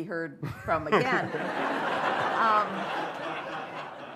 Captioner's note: laughter